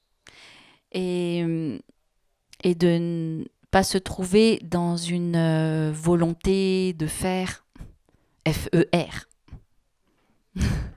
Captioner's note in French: elle rit